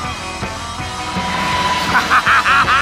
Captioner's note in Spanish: risas